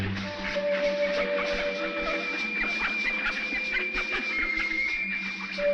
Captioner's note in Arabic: البط ينقنق